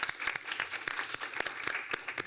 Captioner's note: applause